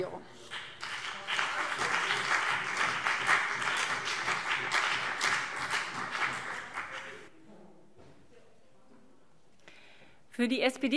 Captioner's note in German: Beifall BÜNDNIS 90/DIE GRÜNEN und CDU